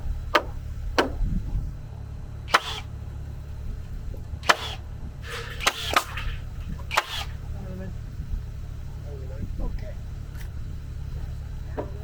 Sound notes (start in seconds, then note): 2.4 tool buzzes